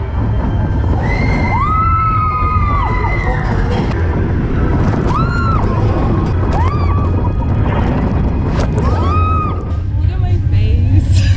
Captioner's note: screaming